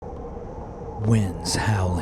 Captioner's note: wind howling